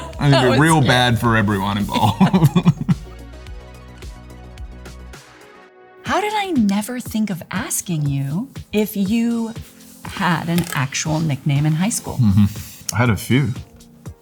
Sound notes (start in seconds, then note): 0.0 Laura laughing; 1.8 both chuckling